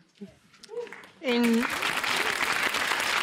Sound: applause

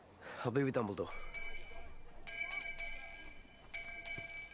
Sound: bell ringing

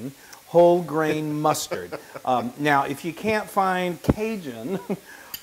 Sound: laugh

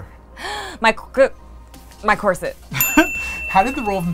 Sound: ding

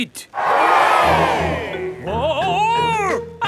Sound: crowd cheers

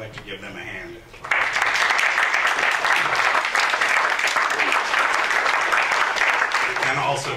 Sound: applause

